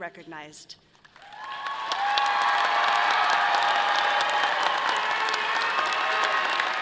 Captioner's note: audience applauding and cheering